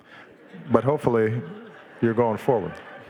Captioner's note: audience laughing